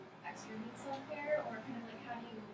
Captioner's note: speaking softly